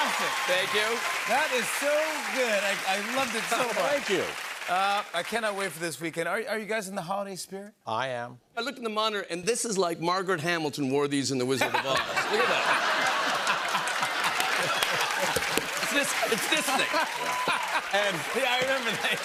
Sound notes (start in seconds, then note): 11.6 laughter